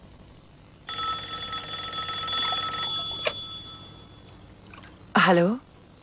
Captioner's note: phone rings